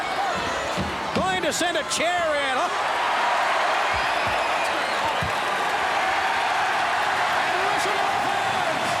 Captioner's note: applause